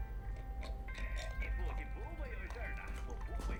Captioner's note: screwing lid on; footsteps